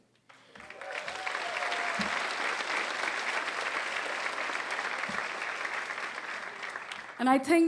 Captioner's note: applause